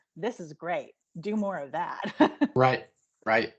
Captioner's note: laughing